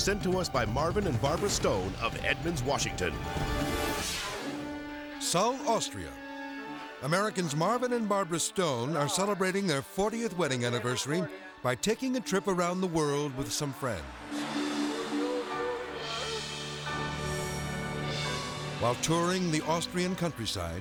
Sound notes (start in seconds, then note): 3.9 graphics booming; 4.8 intense music; 14.2 gentle music